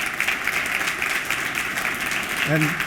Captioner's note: applause